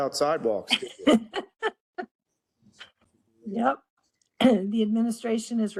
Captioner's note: laugh